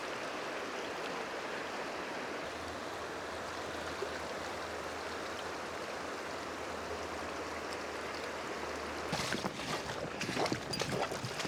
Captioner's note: water flowing